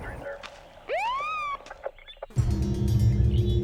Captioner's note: siren trills; tense music